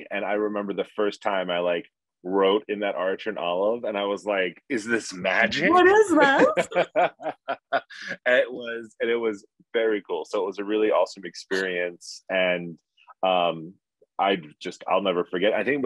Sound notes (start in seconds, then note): 6.8 laughing